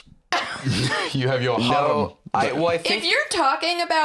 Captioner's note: laughs